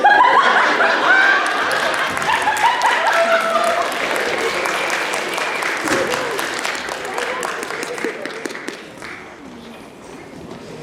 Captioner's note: applause